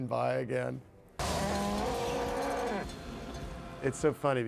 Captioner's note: cow mooing